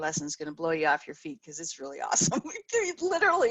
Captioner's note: laughs